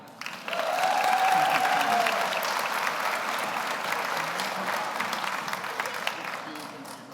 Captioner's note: audience applauds; audience cheers